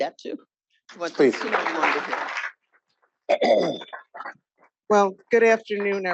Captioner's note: audience applauding